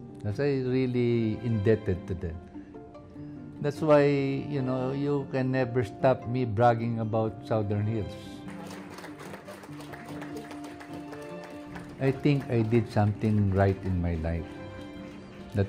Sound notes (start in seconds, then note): 8.4 all clapping